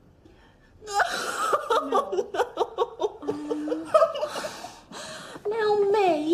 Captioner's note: sobbing